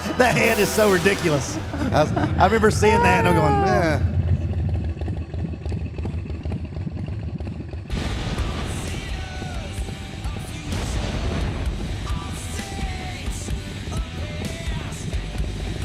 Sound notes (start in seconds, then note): 3.7 motorcycle roaring